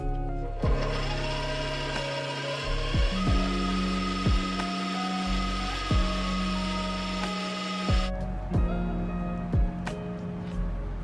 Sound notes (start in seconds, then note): 0.6 mixer whirring